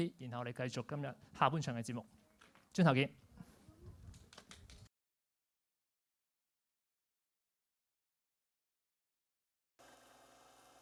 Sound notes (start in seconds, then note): 4.3 applauds